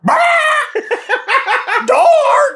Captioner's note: cracking up